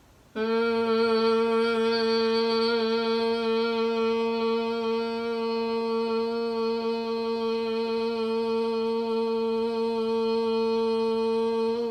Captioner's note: long humming noise like a bee buzzing